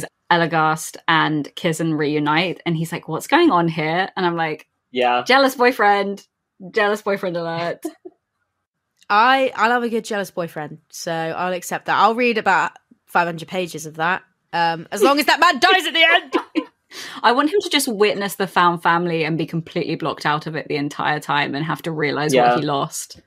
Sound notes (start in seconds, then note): 16.2 laughs